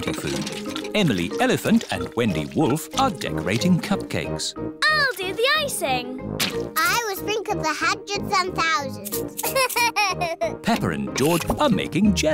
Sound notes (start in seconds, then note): 9.4 laughs